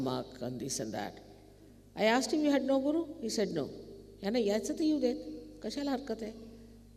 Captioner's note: speaking Marathi